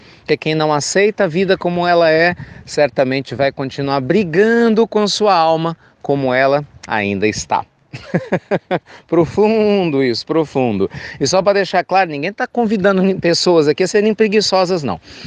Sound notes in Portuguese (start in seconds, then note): 7.9 Risos